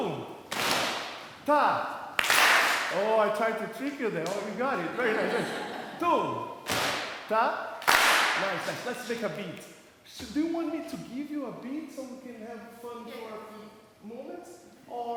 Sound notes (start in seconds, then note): 0.2 claps; 7.8 claps